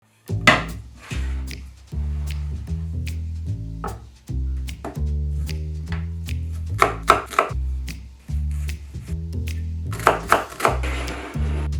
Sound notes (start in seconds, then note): 1.0 board sliding; 6.7 knife chopping